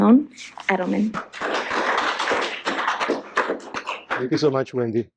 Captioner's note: applause